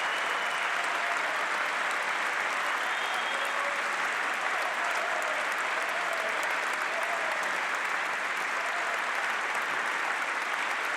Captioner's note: applause